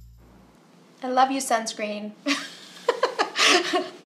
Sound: chuckles

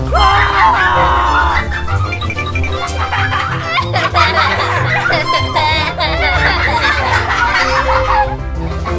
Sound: laughs

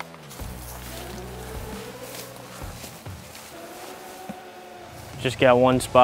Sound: footsteps pattering

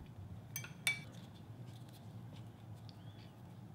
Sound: dish clinks

